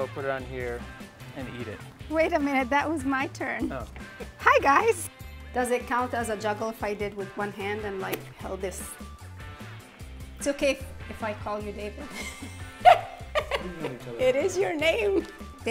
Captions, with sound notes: put it on here and eat it. - Wait a minute, that was my turn. Hi guys. Does it count as a juggle if I did with one hand and like held this? It's okay if I call your David? (laughs) It is your name.